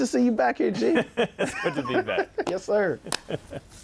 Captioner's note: laughter